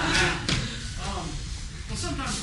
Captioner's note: laughter